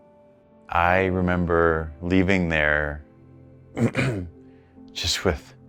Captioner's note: clearing throat